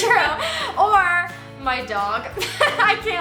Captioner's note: laughs; laughs